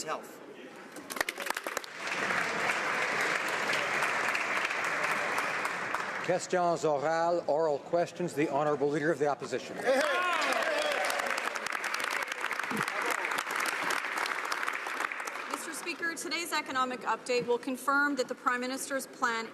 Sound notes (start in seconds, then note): 6.5 applause